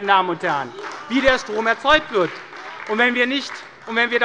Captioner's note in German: Beifall bei Abgeordneten der SPD